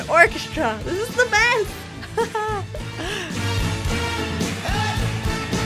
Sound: laughing

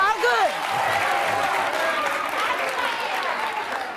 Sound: audience cheers

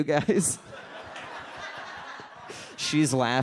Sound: audience laughs

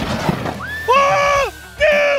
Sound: screaming

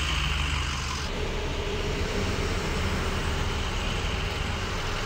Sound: ambulance rumbling; vehicle humming

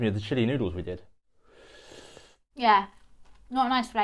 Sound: inhales sharply

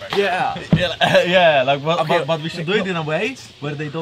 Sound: laughs

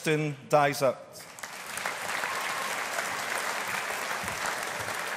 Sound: audience applauding

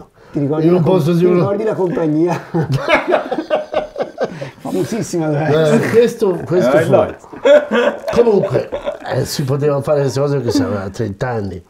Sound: laughts

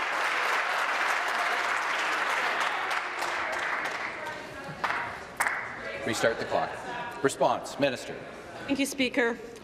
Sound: applause

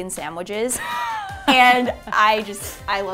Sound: laughs

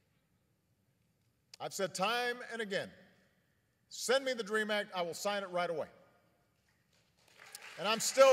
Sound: applause

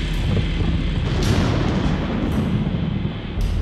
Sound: thunder

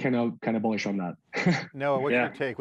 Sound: chuckles

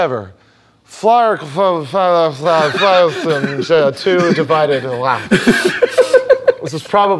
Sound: speaking gibberish

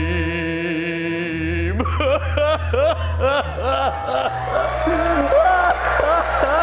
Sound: audience cheering; wailing

